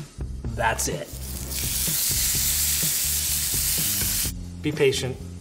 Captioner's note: pan sizzling